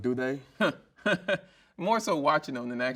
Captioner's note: chuckles